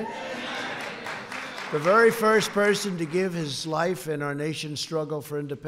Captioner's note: applause